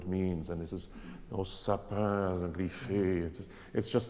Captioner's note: speaks in foreign language